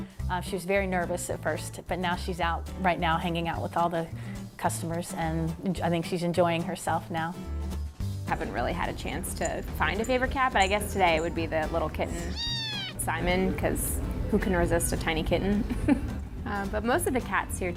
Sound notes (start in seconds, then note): 12.2 kitten meows loudly; 15.6 laughs